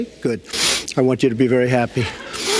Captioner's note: sniff